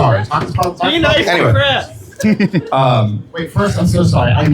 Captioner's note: laughter